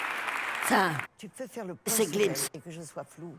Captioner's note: speaking french